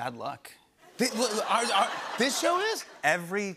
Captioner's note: laughter